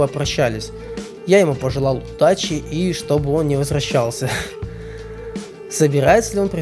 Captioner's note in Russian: смеётся